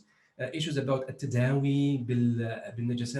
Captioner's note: speaking in foreign language